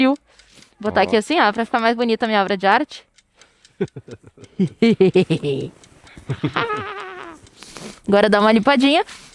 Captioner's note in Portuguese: risadas